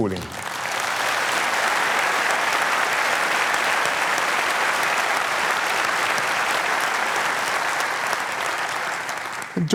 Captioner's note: applause